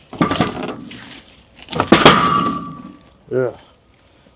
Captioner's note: metal clanking